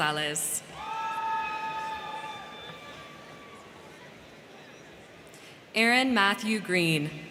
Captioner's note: crowd cheering; crowd clapping